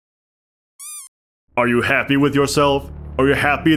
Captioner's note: squeak